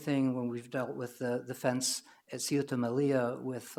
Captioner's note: foreign language